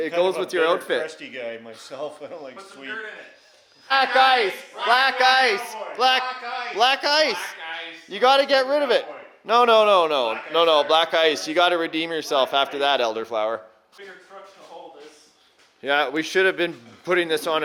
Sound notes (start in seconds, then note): 4.1 crew chanting